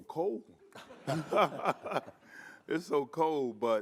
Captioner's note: all laughing